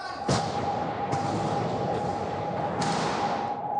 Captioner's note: sound of gunshots